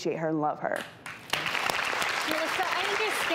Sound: audience applauds

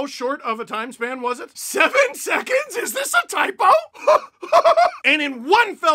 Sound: laugh

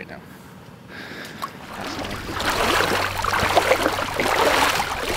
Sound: water splashing

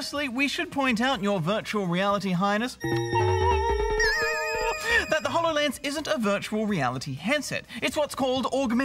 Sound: makes funny sounds

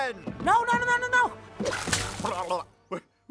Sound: water splashes, blubbers

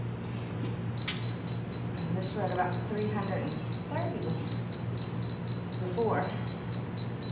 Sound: alarm beeps

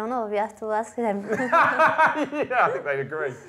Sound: laughs

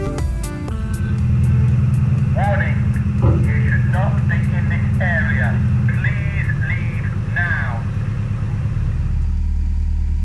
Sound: alarm Announcement

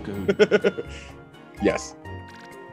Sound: laugh

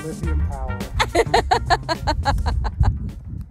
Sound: laughs loudly

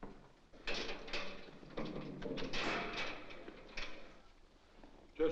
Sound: door unlocks & opens

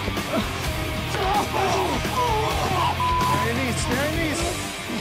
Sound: hard rock music; grunting

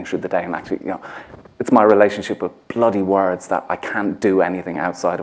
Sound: none

